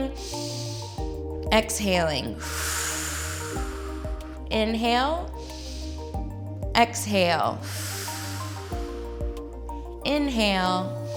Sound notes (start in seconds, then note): 0.1 inhales; 2.3 exhales; 5.2 inhales; 7.6 exhales